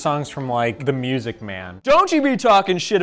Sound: none

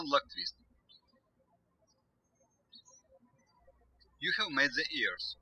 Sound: birds chirping

